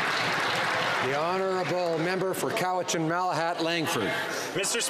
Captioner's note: some Applause